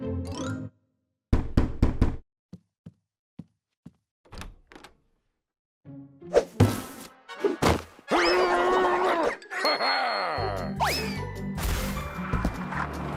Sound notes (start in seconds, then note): 1.7 knock at door; 6.7 box whooshes